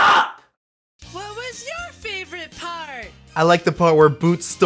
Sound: voice on TV

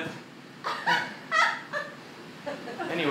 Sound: uncomfortable laughter

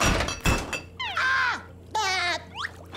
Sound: screaming, laughing

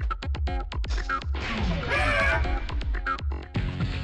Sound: Mysterio yells in frustration

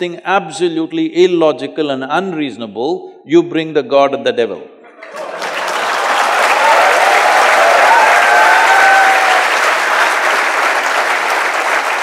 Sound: cheers/Applause

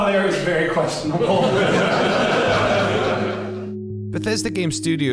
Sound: audience laughs

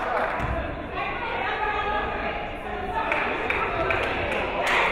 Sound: crowd applauding; crowd chattering

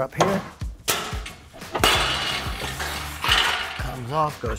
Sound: scraper clanks

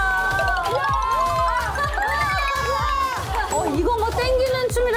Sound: Shrimp clapping

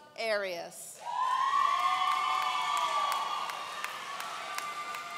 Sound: audience cheering

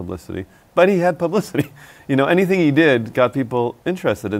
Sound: laughs

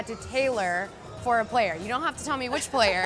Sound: laughs

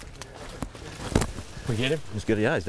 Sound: footsteps through brush

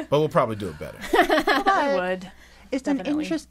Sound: laughter

